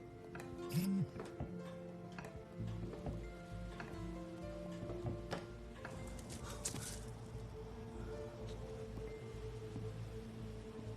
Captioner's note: cellphone buzuzzes